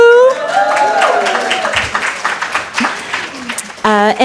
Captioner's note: cheering and applause